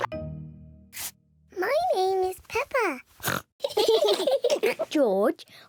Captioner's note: oinks; all laugh